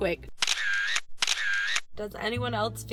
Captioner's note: camera sounds